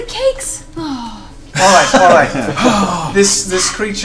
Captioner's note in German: lacht